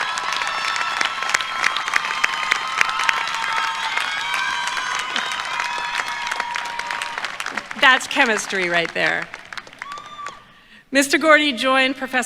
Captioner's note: cheers and applause